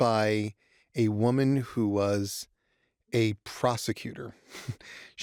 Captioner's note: chuckles